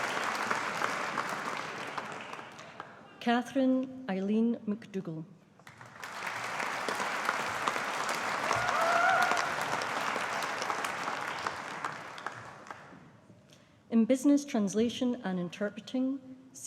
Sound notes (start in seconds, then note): 5.6 audience applauding